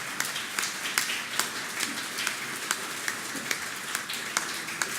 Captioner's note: applause